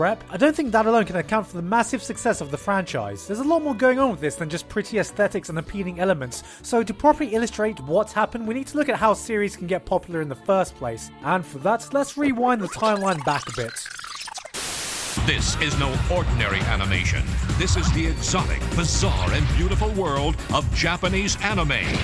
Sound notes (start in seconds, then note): 11.8 VHS rewind sounds; 12.6 TV static sounds